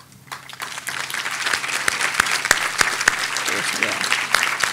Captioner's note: audience applauding